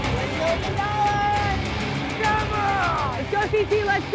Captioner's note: crowd cheering